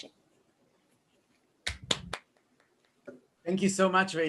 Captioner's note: applause